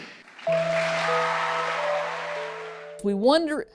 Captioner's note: applause